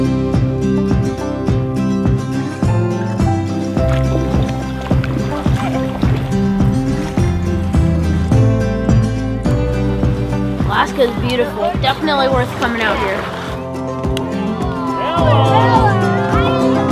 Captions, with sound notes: (peaceful instrumental music) (water splashing) Alaska is beautiful... definitely worth coming out here.